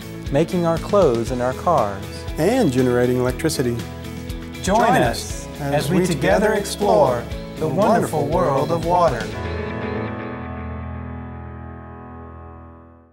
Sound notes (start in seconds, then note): 3.9 speaking together